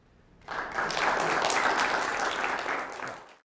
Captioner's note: applause